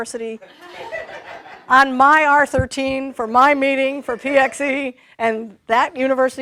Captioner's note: laughter